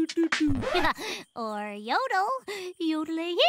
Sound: record scratch

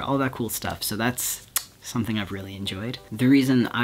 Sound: smooches

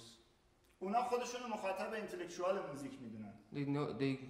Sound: speaking in farsi

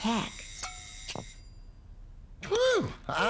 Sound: timer Rings

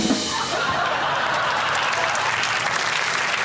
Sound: audience laughs; applause

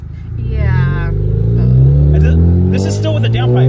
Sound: engine revving

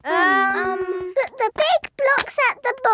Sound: children hesitating

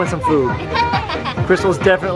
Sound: laughing

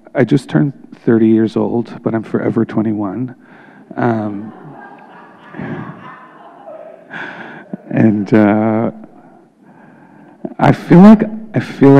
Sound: laughter

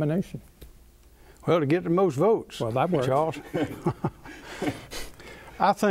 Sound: laughter

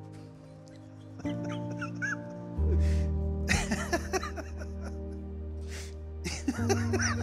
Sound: laughing

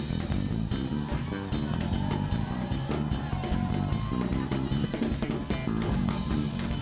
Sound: upbeat base music; crowd applauding

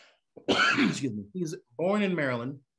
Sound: cough

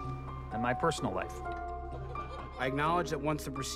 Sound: laughing

